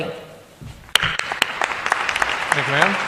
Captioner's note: applause